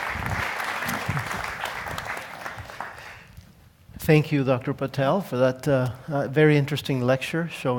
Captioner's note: applause